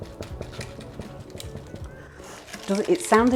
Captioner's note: hollow-ish knocking